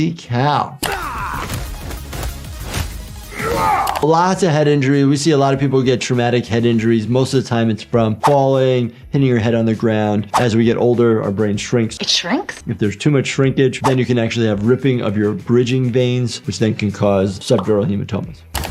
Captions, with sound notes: (grunting) Lots of head injury. We see a lot of people get traumatic head injuries. Most of the time it's from falling hitting your head on the ground. As we get older, our brain shrinks. - It shrinks? If there's too much shrinkage then you can actually have ripping of your bridging veins which then can cause subdural hematomas.